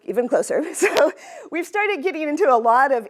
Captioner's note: laughter